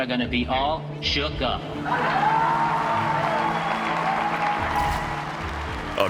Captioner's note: audience cheering; audience applauding